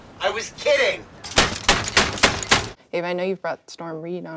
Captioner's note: pounding